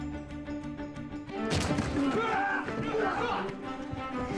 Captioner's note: both grunting, yelling